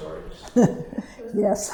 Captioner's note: chuckles